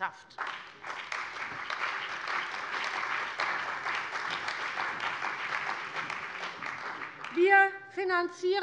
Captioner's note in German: Beifall bei der CDU und dem BÜNDNIS 90/DIE GRÜNEN